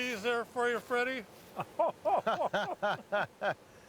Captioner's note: laughing